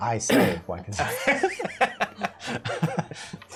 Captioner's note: laughter